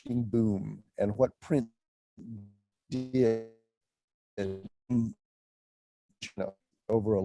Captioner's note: audio distortion